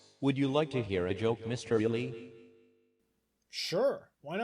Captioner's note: none